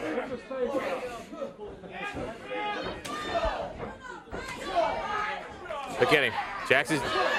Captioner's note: crowd chatter